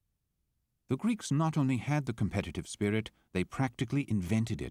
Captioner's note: voiceover